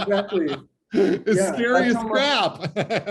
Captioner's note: laughter